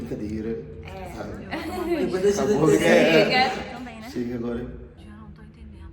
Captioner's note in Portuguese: risos